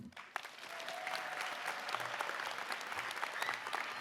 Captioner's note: applause